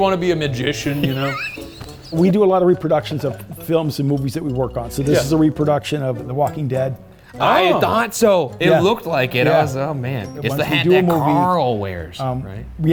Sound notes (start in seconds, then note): 0.8 laughing; 1.5 playful music continues